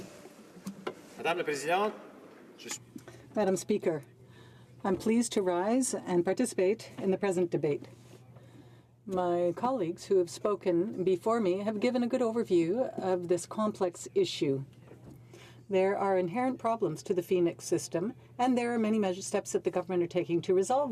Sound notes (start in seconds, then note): 4.7 speaking French